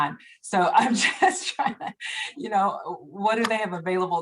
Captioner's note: laughter